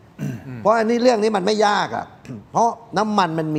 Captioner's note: clears throat